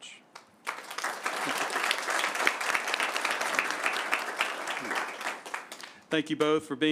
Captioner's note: applause